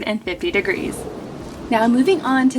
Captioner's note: graphics whoosh